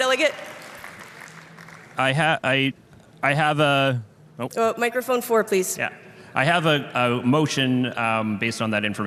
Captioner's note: applause